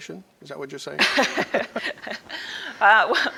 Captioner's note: laughs